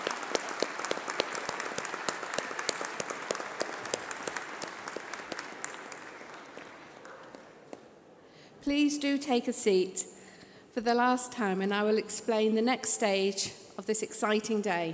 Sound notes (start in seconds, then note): 2.6 applause